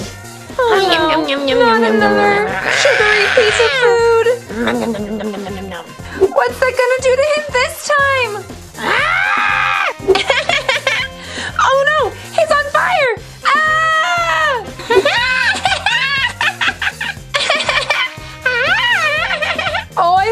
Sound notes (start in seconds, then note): 2.0 Jack-Jack screams; 8.8 Jack-Jack screams; 10.3 Jack-Jack giggles; 13.4 Vampirina screams; 14.9 Jack-Jack giggles